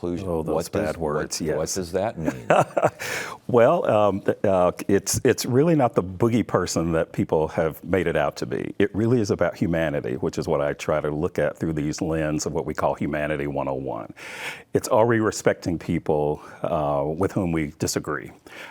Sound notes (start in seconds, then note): 2.2 laughs